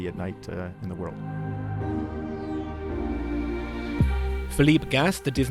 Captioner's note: voiceover